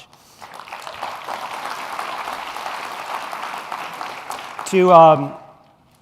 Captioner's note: applause